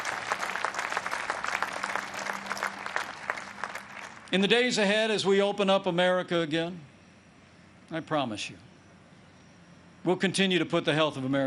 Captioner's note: applause